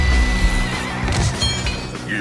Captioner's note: metal clangs